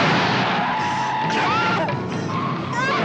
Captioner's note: tires screeching